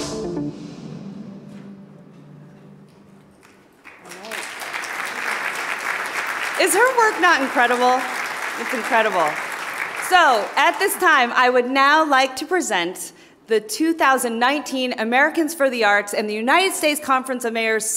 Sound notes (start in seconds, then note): 4.1 audience applauding